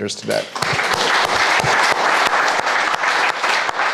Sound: crowd applauding

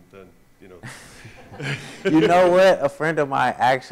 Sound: audience laughs

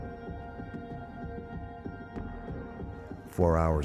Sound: voiceover

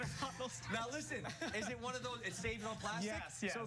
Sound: laughter

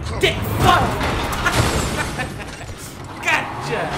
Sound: laughing

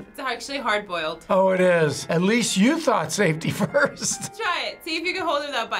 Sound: chuckles

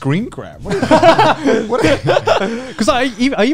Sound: laughs

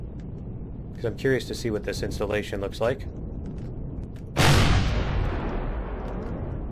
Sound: rockets firing

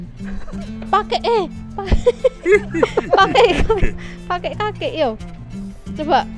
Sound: chuckles

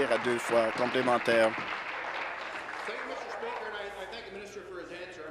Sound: applause

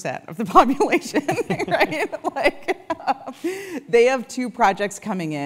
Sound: laugh

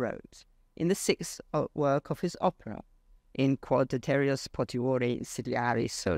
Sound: speaks foreign language

